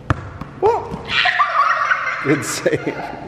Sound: laughing

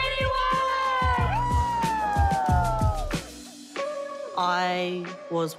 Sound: everyone cheering

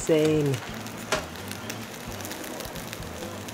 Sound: meat crackling

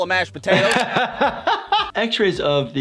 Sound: laughter

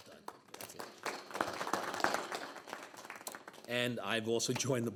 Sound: board members applauding

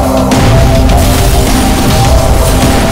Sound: explosion

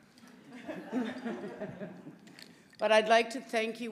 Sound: audience laughing

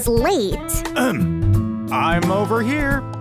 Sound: ahem

